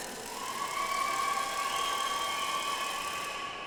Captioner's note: audience applauds